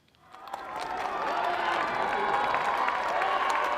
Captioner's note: applause